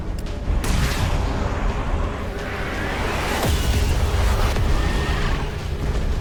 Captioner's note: dramatic music; missile fire